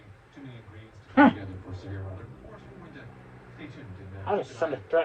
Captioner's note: continues growling